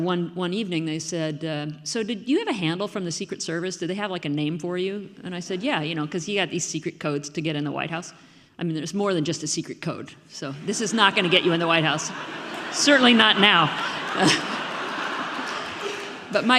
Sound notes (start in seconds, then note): 10.6 audience laughing; 15.0 laughs; 15.5 audience laughing